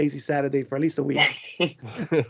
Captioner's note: laughter